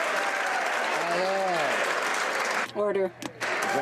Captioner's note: applause